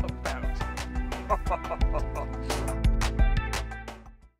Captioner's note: chuckling